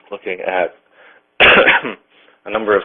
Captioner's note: coughs